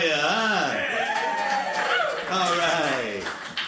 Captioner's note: crowd cheers